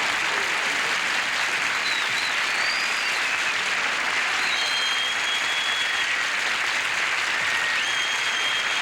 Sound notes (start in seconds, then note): 4.3 audience whistling